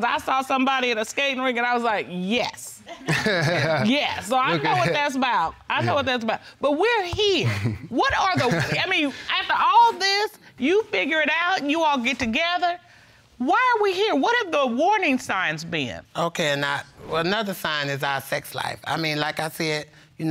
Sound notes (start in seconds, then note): 2.9 laughing